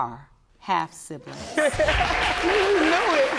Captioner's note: audience cheering